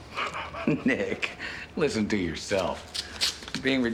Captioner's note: laughs